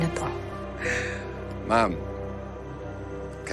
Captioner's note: sighs